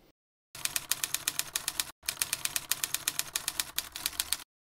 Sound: typewriter tapping

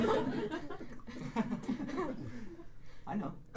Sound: laughs nervously

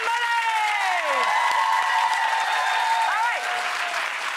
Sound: audience cheering

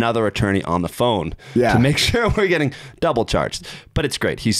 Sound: chuckling

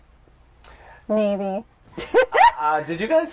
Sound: laughter

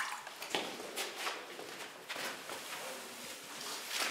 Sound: none

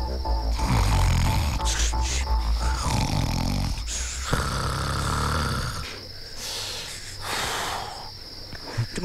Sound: snoring

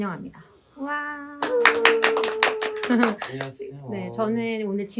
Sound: applause

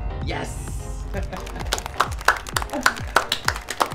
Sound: applause

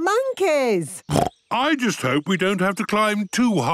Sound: snorts

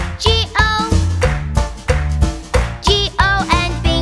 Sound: clap

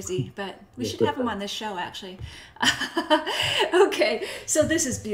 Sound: laughs

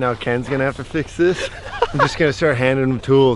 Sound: laughs

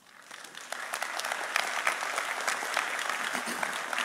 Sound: audience applauding

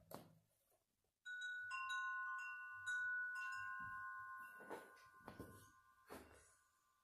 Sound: sounds of wind chimes

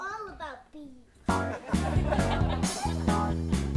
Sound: audience laugh

